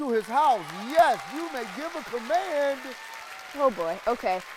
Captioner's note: people applauding